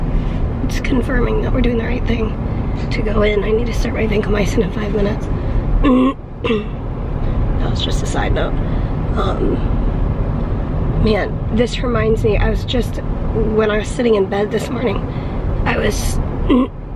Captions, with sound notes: It's confirming that we're doing the right thing to go in. And I need to start my vancomycin in five minutes. [clearing throat] That was just a side note. Man, this reminds me, I was just, when I was sitting in bed this morning I was...